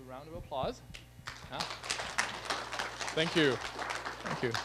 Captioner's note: applause